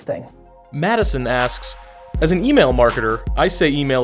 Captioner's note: voiceover